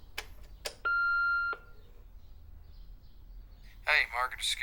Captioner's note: answering machine beeping